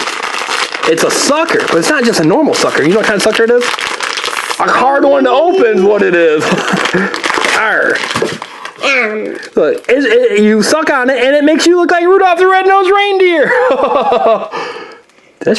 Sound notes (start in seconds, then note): 5.6 laughs; 6.3 wrapper crinkling